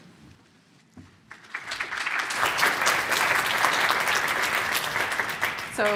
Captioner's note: applause